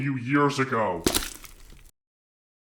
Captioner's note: crack